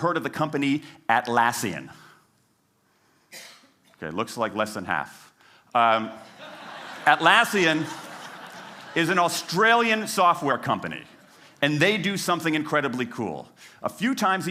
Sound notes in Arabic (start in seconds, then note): 6.2 ضحك